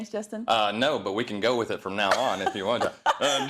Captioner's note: laugh